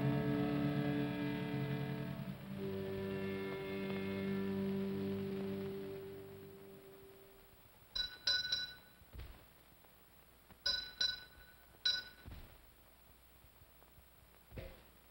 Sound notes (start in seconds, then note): 7.9 bell rings slowly